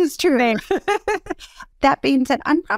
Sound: laugh

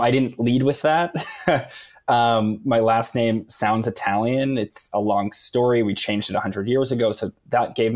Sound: laughs

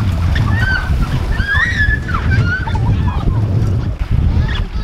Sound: girls screaming and playing

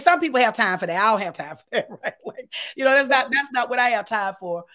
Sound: laughs

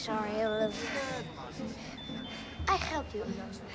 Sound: both panting

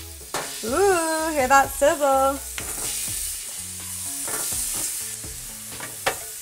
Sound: squash rings sizzle

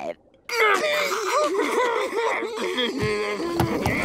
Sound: laughing

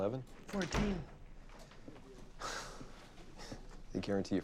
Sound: sighs

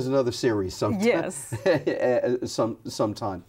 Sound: laughs

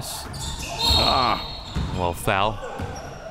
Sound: whistle

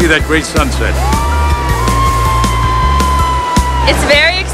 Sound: boat passengers cheering

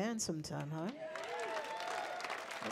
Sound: people clapping

